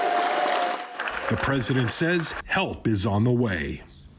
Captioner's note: applause